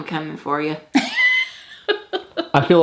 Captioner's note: laughs